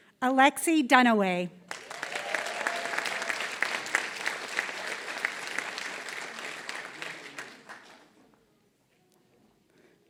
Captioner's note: applause